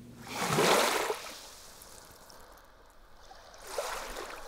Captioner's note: water lapping on shore